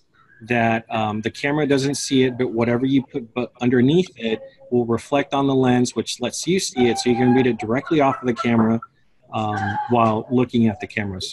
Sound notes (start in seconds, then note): 6.3 unrelated laughter